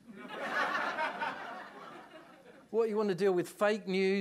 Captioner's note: audience laughing